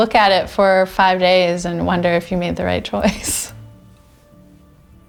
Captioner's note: chuckles